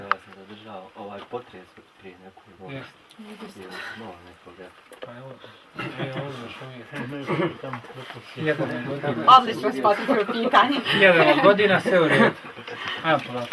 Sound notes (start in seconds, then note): 0.9 Chatter about earthquake in Zenica